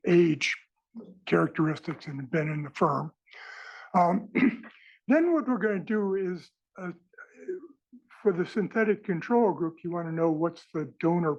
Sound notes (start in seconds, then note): 4.0 cough